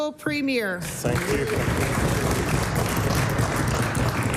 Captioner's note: applause